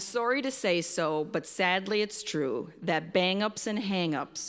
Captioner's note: none